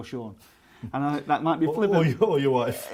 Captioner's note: laughs